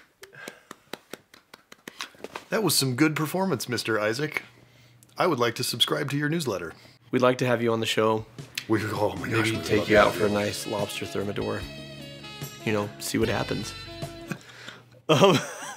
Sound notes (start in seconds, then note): 8.5 fanboying incomprehensibly